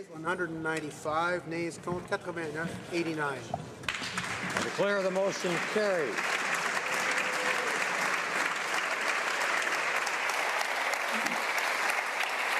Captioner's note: applause